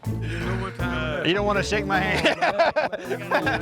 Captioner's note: laughs